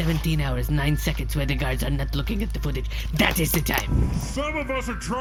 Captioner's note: tapping pen for emphasis